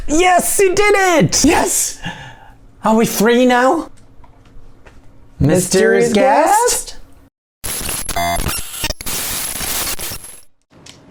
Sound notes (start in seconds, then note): 7.6 static hissing